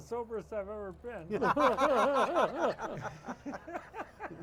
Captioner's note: all laughing